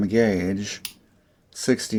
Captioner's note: click